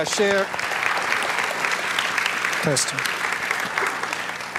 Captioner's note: audience clapping